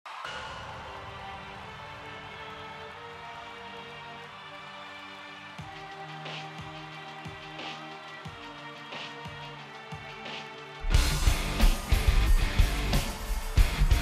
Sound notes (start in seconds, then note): 0.0 audience cheering; 0.2 gentle music; 10.8 intense rock music